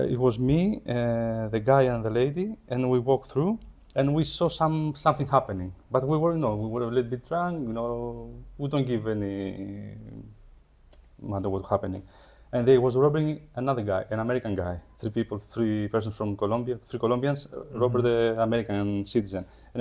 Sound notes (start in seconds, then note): none